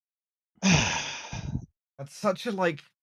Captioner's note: sighs